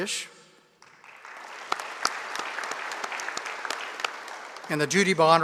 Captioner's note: audience applauding